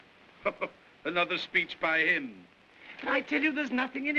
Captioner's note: chuckles